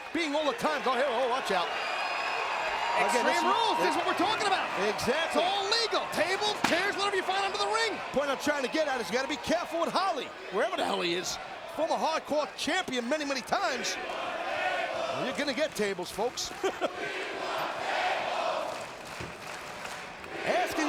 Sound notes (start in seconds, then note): 2.1 crowd cheering; 16.4 laughs; 18.6 hands clapping